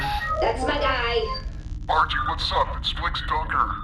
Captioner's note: distorted voice